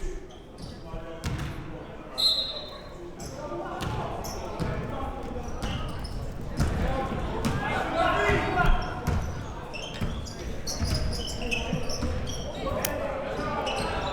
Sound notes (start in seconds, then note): 2.5 whistle blows